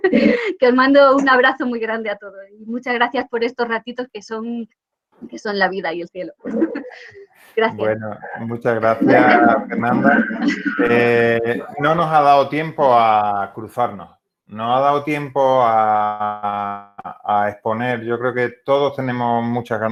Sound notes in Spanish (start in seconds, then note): 6.5 risas